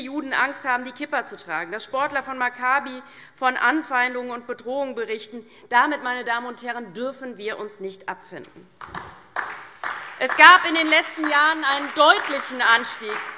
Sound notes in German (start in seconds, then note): 8.8 Beifall DIE LINKE, SPD, Freie Demokraten und vereinzelt BÜNDNIS 90/DIE GRÜNEN